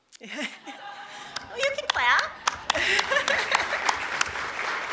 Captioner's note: applause; laughter